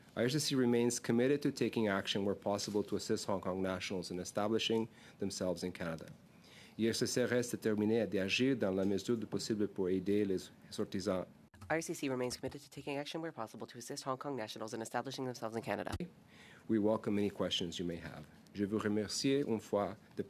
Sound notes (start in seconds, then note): 11.9 speaking French